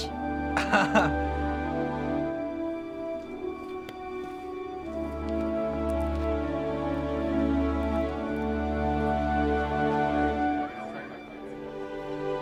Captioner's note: laughs